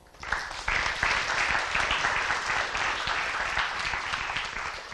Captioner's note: applause